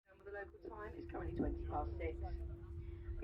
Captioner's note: plane announcement